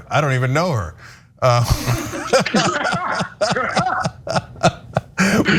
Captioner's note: laugh